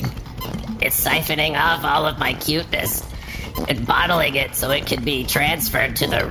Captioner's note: raspy